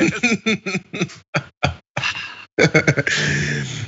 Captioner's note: laugh